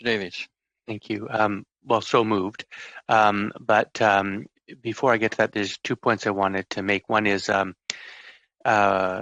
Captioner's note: speaking in French